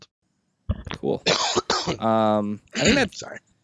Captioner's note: coughs